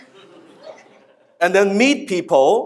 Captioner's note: laughing